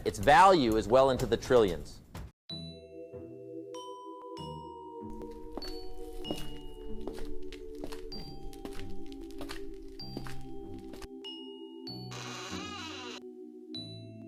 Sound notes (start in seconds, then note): 5.1 curious Music; 6.8 footsteps